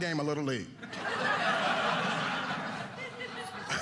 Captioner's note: audience laughing